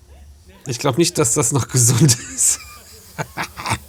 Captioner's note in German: gelächter